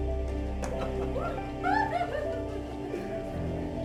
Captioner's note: woman laughing